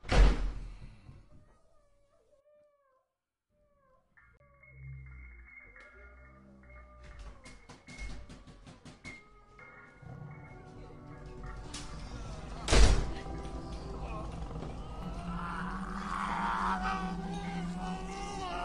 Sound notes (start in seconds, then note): 9.9 distant cry; 12.5 door slams open